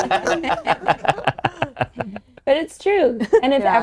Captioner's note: all laughing